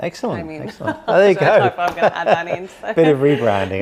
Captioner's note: laughs